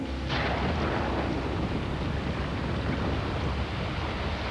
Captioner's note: thunder booming